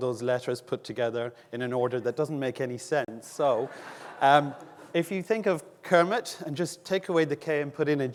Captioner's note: audience laughing